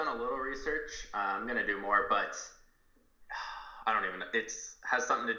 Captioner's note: sighs